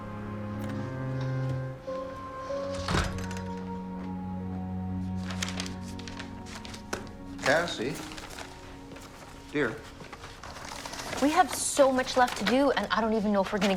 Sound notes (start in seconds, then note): 2.6 door rattles; 5.3 paper rustling